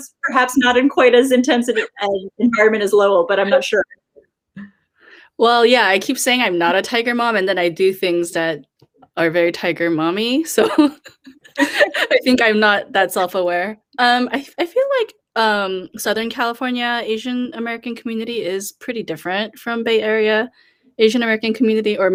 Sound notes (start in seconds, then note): 10.6 laughing